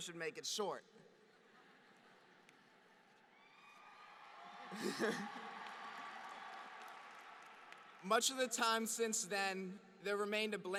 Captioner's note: applause; laughter